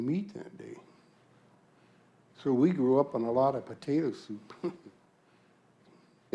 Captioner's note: chuckles